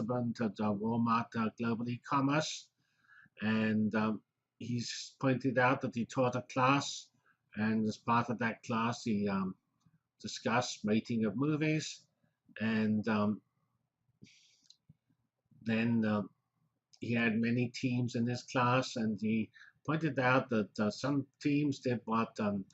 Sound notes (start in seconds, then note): 12.0 pause